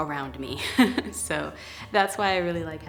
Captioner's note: laughs